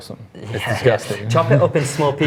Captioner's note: giggles